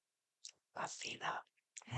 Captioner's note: whispered